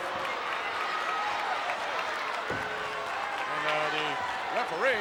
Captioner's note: crowd cheering